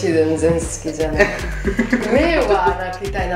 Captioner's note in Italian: Risate